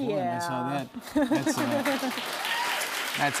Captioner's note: cheers and applause